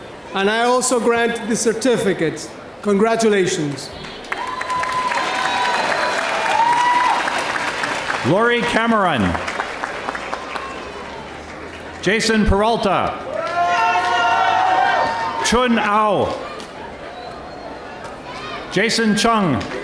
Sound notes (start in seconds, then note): 4.0 audience applauding